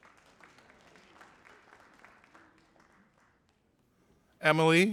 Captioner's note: audience applauding